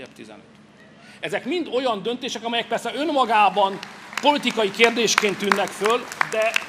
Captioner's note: applause